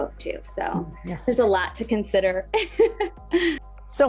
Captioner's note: laughs